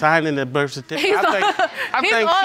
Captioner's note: laughing